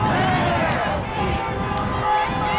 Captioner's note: crowd; car horns blaring